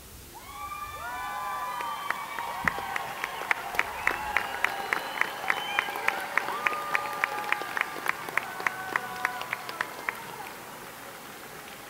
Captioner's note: cheering and Applause